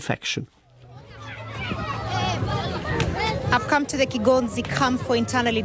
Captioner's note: children playing